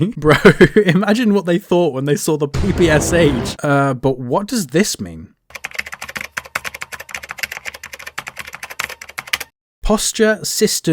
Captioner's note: keyboard typing sounds